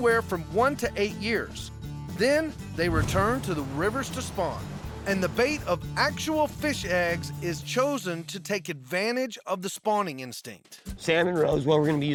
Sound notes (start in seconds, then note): none